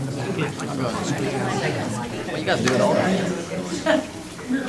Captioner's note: crowd talking indistinctly